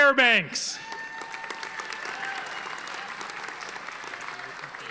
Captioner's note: audience applauding